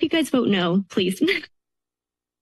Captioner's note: laughs